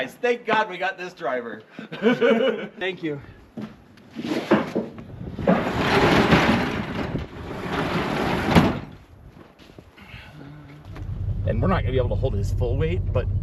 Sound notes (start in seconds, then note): 1.8 laughs; 5.3 door whooshes; 5.5 door thuds